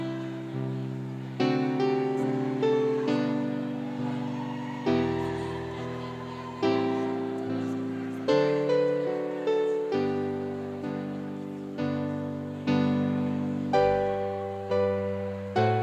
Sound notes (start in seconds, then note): 4.4 cheering